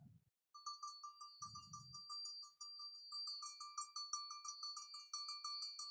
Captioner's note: ringing cowbell